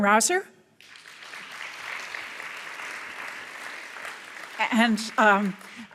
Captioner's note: audience applauds